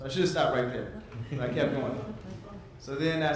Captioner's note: audience laughs